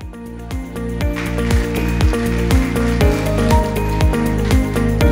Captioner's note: applause